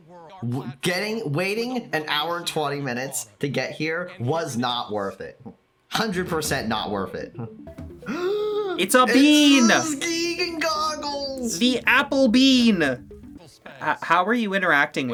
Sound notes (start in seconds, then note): 8.0 gasping in feigned shock